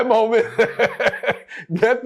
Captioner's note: laughs